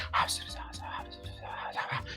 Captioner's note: whispering